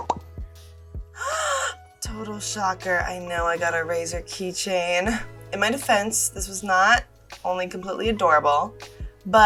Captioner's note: gasp